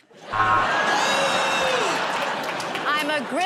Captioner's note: laughter